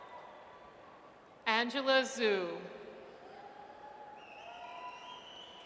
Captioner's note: audience cheers